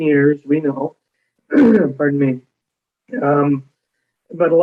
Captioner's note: clears throat